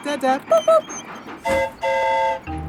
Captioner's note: mimics train whistle; train whistle toots